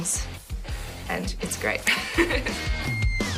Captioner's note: laughs